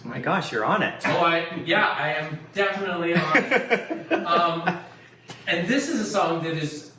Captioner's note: laughs